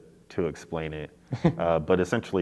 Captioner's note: chuckles